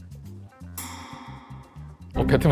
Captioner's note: impact